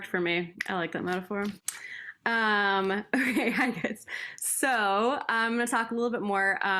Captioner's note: laughter